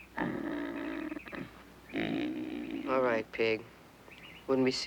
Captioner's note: grunting